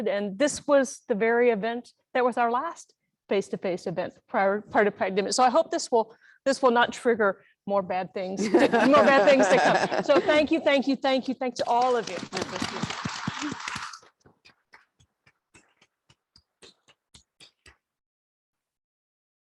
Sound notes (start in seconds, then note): 8.5 laugh; 11.8 applause